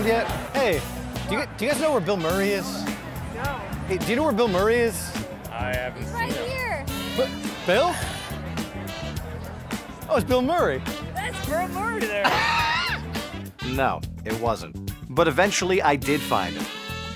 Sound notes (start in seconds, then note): 11.1 laughing